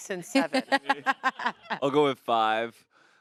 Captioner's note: laughs